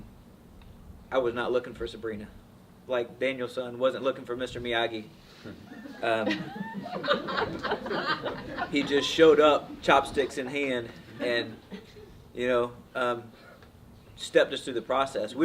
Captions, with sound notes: I was not looking for Sabrina. Like Daniel-san wasn't looking for Mr. Miyagi. (audience laughs) He just showed up, chopsticks in hand and, you know, stepped us through the process.